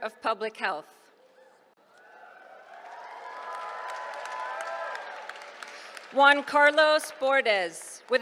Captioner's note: applause